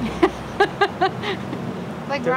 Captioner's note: woman laughs